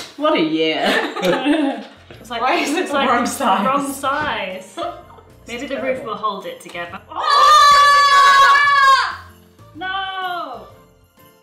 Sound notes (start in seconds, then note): 0.0 laughing; 7.2 yelling